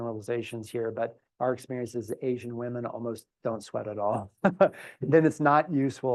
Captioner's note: laugh